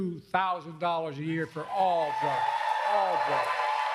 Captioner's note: applause